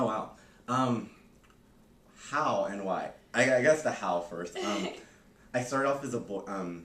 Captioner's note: laughter